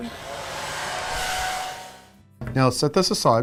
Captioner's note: hair dryer blowing